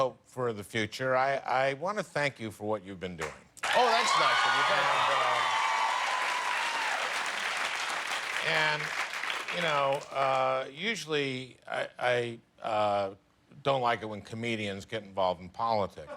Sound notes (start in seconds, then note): 3.6 cheers and applause